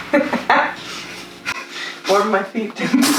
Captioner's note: laughing